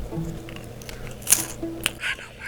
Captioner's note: Crumch